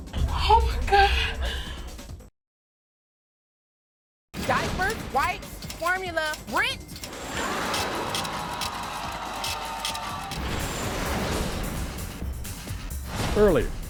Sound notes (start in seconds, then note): 7.5 scratching; 10.9 upbeat music